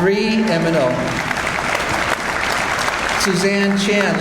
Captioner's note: audience applauds